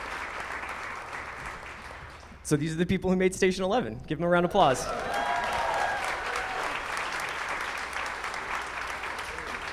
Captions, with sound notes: So these are the people who made "Station Eleven", give 'em a round applause. (audience cheering)